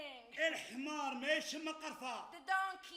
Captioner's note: man speaks Arabic